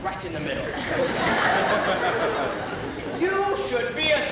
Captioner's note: laughter